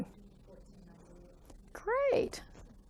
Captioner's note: student speaking faintly